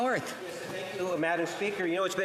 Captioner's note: speaking in French